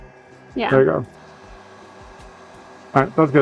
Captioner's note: heat gun whirring